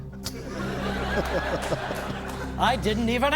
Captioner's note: laughter